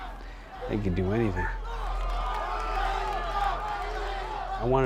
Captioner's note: crowd yelling